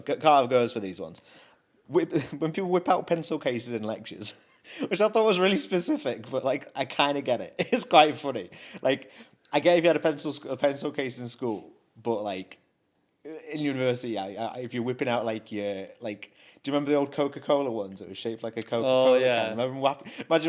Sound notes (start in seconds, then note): 4.3 chuckles; 7.6 chuckles